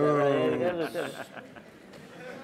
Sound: laughter

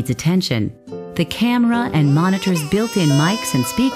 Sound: baby cries

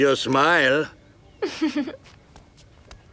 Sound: chuckling

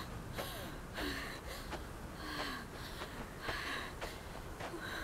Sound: Googly panting

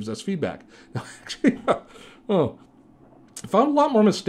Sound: laughing

